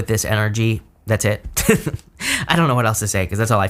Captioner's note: laughs